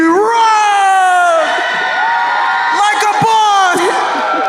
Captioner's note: crowd cheering